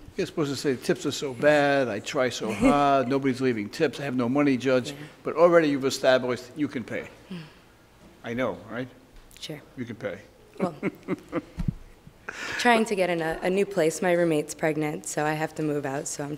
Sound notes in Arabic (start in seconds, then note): 10.6 ضحكات